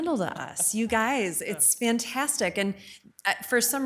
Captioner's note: chuckles